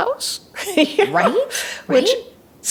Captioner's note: laughs